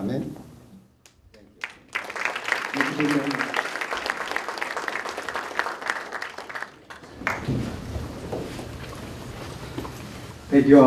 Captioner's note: applause